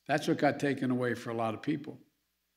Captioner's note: none